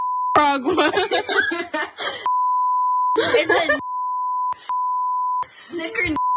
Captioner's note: laugh